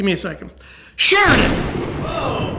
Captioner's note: thunder clap